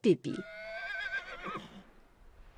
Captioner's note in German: Geräusch: Pferd wiehert